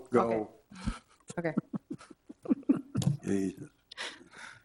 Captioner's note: chuckling